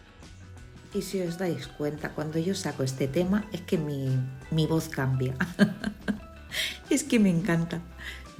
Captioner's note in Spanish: risas